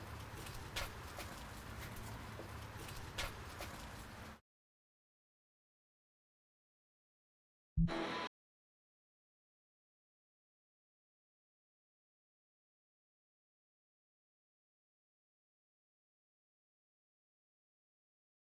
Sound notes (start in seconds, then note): 0.0 footsteps receding; 7.9 upbeat heavy metal music